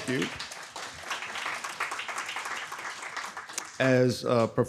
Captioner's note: audience clapping